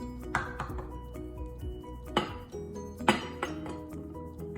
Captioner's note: clanking sound continues